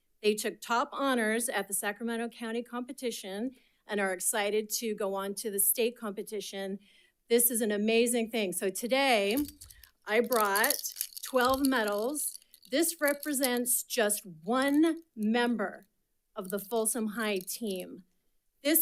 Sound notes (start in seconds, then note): 9.2 metal clanking